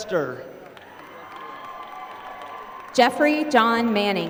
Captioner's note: applause